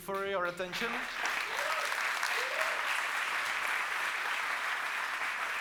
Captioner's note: audience applauding